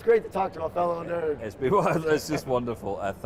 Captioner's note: laughs